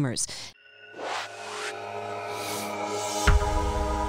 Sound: air whooshing

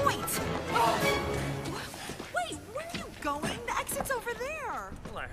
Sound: sighs

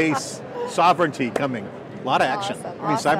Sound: women laughing

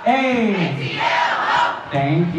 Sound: crowd

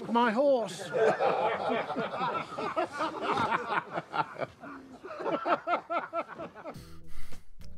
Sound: laughter

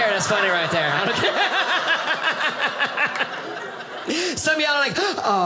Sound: audience laughing

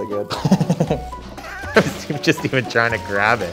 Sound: laughs

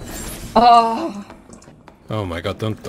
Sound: moans

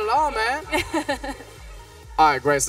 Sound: laughs

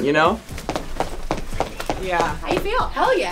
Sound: running sound

